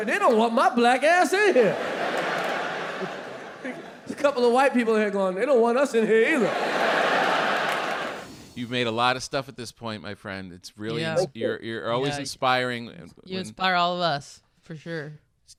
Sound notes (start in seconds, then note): 1.2 audience laughing; 6.1 audience laughing